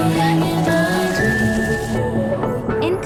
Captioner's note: chirping; flapping